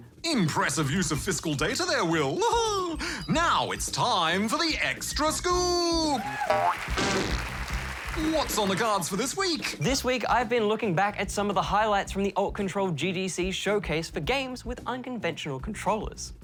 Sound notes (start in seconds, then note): 2.6 laughs; 6.0 applause